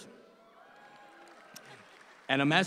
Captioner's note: audience cheers